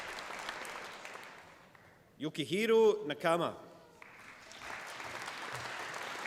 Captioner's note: applause